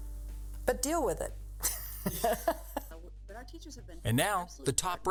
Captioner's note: laughs